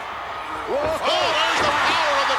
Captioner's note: commentators exclaim